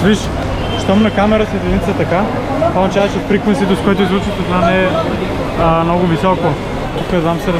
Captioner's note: vibrating